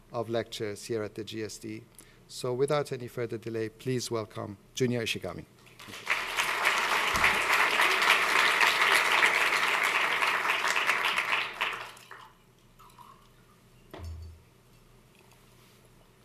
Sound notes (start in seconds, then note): 5.7 applause